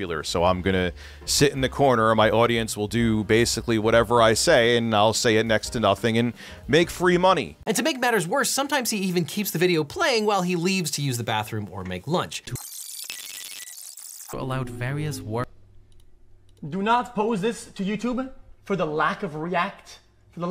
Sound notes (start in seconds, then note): 12.5 tape screeching